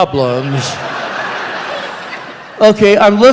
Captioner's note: laughter